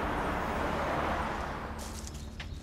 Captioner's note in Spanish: Sonido de los carros